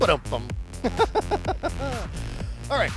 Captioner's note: laughing